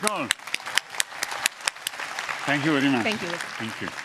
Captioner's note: applause